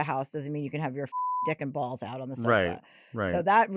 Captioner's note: beep